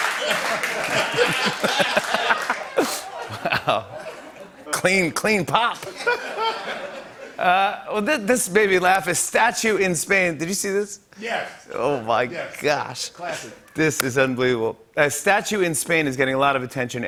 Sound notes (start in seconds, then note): 0.0 laughter and applause; 5.7 laughter